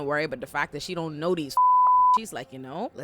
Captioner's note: beep